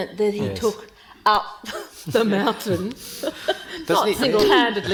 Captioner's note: laughing